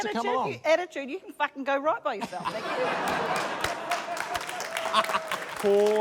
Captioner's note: laughter, applause